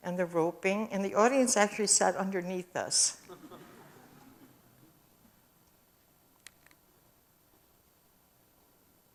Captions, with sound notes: and the roping and the audience actually sat underneath this. [AUDIENCE CHUCKLES]